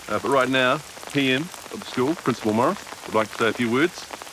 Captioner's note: none